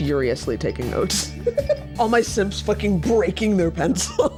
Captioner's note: laughs; laughing